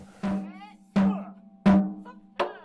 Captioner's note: chanting